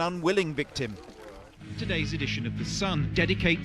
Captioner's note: voiceover